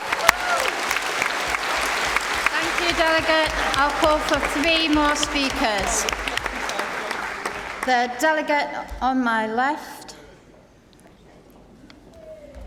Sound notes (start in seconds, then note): 7.4 applause